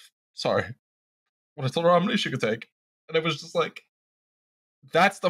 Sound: voice thick with emotion

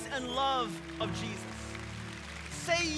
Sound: congregation clapping

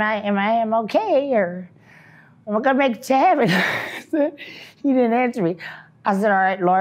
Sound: laughs

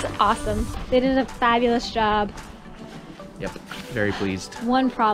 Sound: laughs

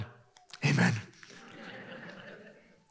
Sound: laughter

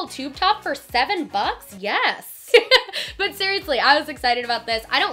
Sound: laughs

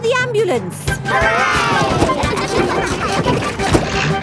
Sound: giggling

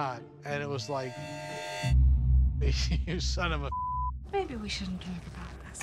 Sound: beep

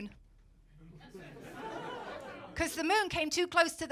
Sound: laughter

